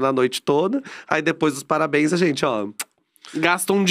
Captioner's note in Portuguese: beijo